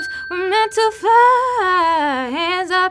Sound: ding

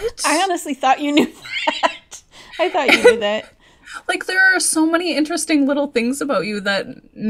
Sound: laughs

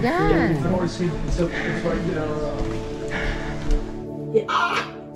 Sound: runners chattering

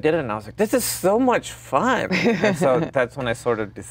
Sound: Gal laughs

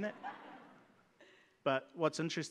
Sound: audience laughs

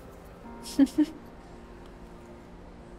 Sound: chuckling

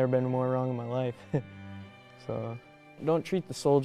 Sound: laughs

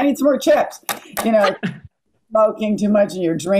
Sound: laughing

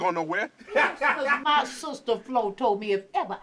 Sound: chuckling; laughing

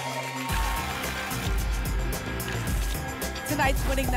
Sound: tickets shuffling

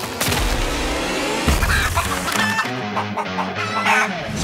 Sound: clucking

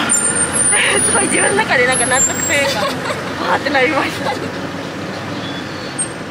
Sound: laughs

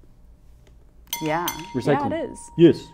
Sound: bell rings

